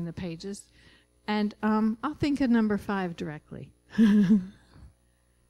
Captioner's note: laughing